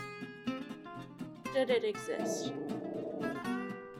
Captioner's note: dog growl; dog growls x10